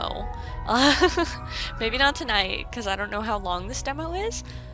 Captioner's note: laughs